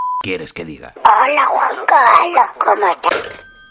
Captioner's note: hangs up